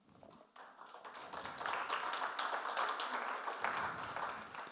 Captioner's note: audience applauds